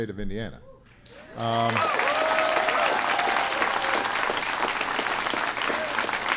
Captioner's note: applause